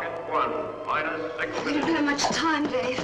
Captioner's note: loudspeaker